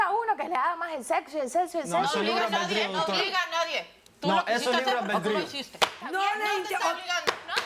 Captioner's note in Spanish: Hablan al unísono